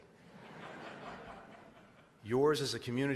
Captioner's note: laughter